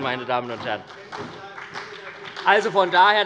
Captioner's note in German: Beifall bei der SPD und bei Abgeordneten der FDP - Zurufe von der CDU